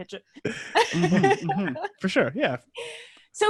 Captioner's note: laughs